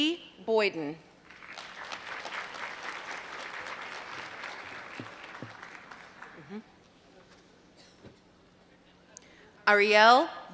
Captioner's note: applause